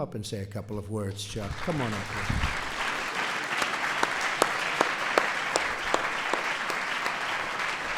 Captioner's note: applause